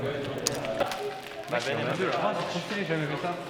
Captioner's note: indistinct chatter